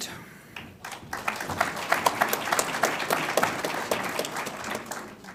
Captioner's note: audience applauds